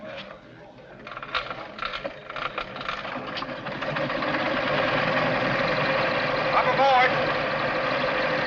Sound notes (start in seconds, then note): 3.0 engine revs